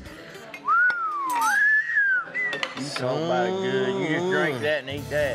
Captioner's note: whistles